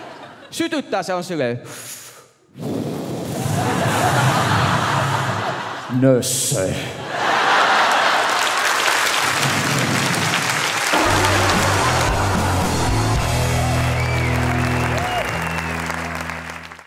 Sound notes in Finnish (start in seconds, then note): 8.7 Naurua ja aploodit